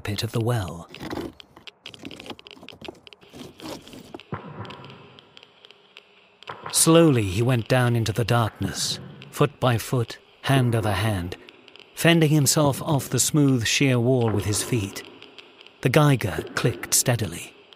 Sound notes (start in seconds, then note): 3.2 feet scraping